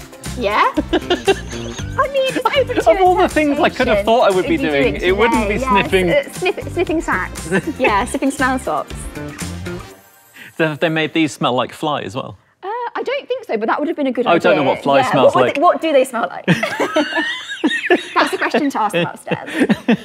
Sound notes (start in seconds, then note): 0.7 giggles; 9.0 wheezes; 16.4 both laugh; 19.8 giggles